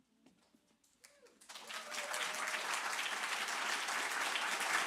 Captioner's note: cheers, applause